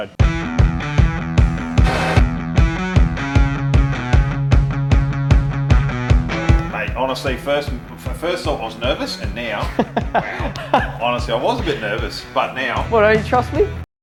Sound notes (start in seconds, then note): 1.4 energetic music; 9.4 he laughs